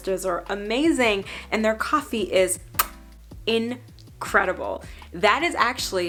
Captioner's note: kiss